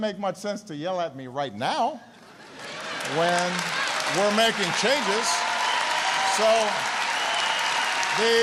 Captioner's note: applause